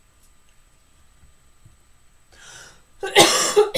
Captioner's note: coughs